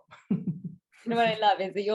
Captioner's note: laughing